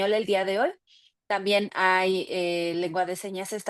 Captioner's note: speaking Spanish